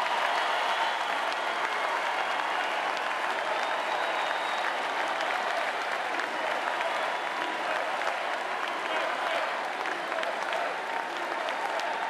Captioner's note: cheers and applause